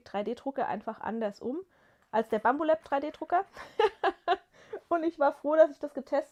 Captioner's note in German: gelächter